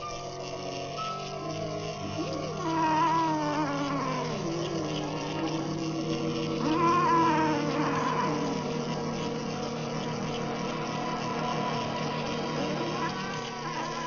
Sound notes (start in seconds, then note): 2.7 yowling